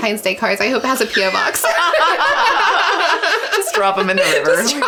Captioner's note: laughing